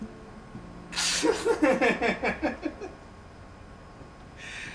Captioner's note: laughs